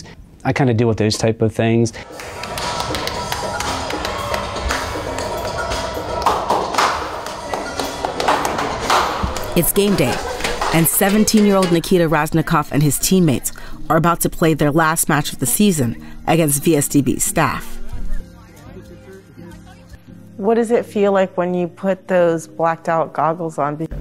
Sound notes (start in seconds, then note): 3.6 clapping and music